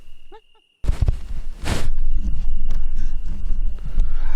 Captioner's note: microphone rustling